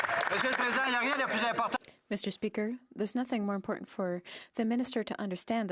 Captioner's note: cheering and Applause